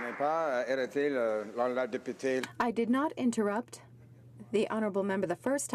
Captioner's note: some Applause